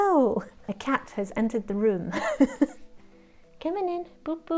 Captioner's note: laughs